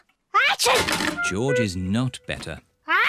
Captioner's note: sneezes